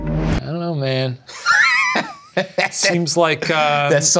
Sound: ominous music; laughs

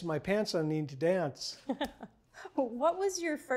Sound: laughs

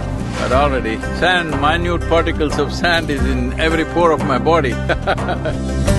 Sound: laughs

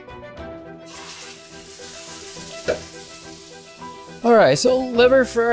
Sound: meat frying

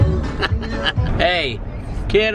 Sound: laughs

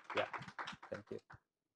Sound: applause

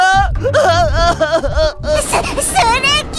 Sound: cries

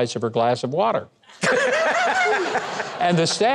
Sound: crowd laughing

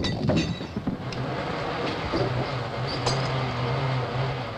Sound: clink; hiss

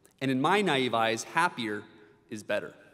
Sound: none

